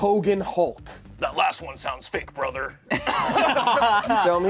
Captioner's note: laughs